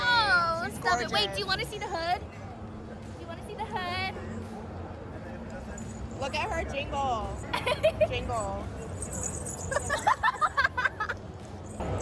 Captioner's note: laughs; both laugh